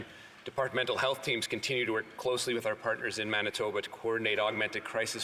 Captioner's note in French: voix de l'interprète